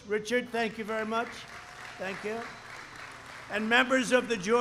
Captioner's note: applause